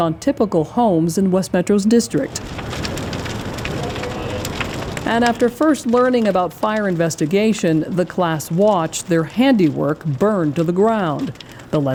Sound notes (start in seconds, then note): 2.9 fire cracking